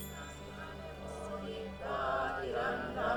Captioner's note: all chanting